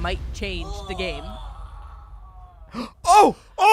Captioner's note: groans